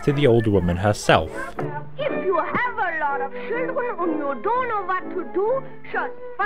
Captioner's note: Germanic accent